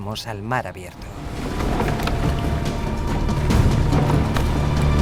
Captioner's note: wood smashing